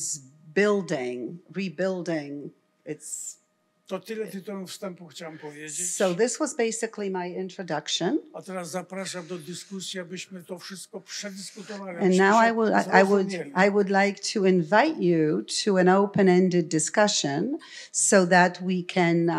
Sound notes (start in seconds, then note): 2.5 foreign language; 8.3 foreign language